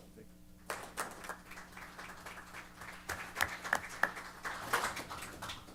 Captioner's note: applause